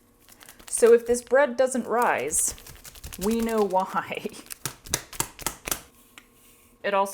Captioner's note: smacking